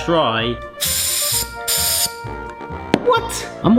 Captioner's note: gas hisses